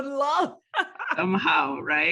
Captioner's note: laughter